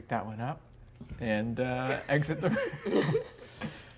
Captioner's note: chuckles